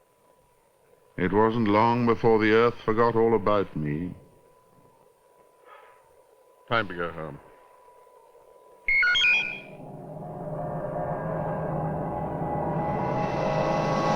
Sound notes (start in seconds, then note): 6.0 sighs; 8.8 electronic beep